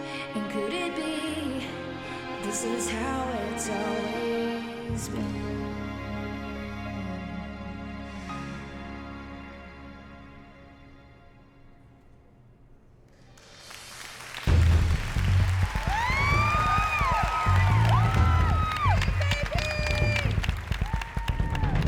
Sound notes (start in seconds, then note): 12.8 applause; 14.4 dramatic music; 16.7 cheering